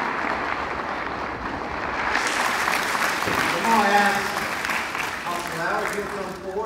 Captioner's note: applause